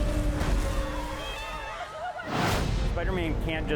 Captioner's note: people screaming